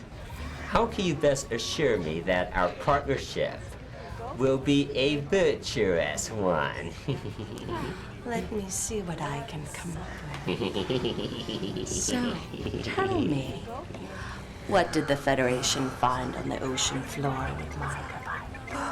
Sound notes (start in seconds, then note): 6.9 Ferengi - giggling; 10.3 Ferengi - giggling